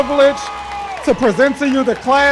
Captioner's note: cheering